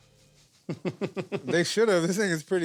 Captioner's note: laughs